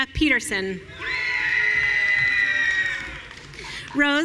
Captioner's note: audience cheering